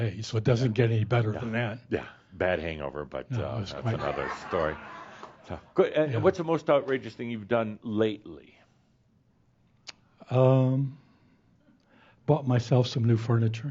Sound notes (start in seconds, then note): 3.4 laughter